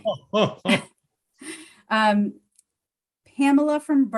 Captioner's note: laughs